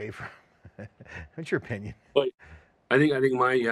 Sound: laughs

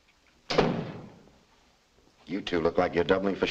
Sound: door slams

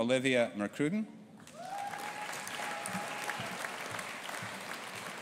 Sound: audience applauding

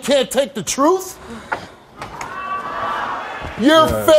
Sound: audience jeers

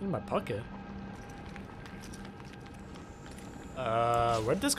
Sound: rummaging through pockets

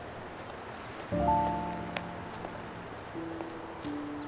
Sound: footsteps

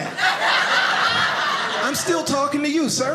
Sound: audience laughing

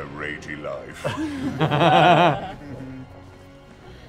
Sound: laughter

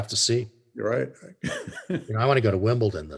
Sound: chuckles

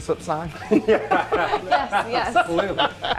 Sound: everyone laughs

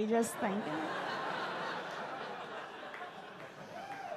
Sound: audience laugh

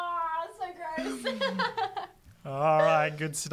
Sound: laughs

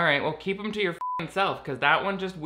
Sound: beep

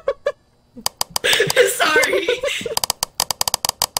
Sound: giggles; clicking stops; laughs; clicking continues again; more flashlight clicking

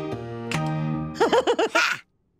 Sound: laughing

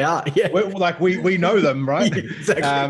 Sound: all laughing

